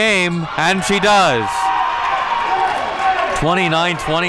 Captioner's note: audience cheering